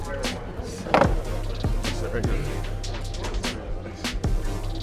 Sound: chair thudding

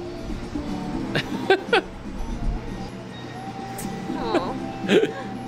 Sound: laughing

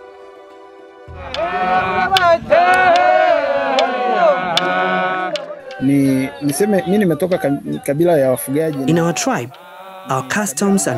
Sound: through translator

